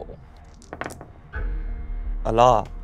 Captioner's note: die rolling